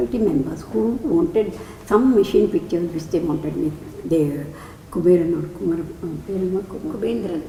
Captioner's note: in Tamil